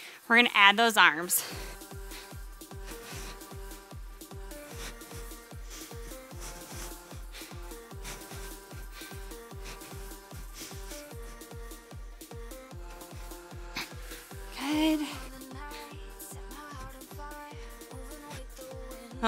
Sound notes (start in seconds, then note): 2.4 breathes; 2.4 soft upbeat music